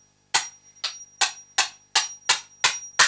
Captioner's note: ting; ting ting ting ting ting